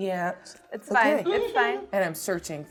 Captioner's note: laughing